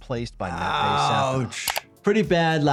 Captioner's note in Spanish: clics del ratón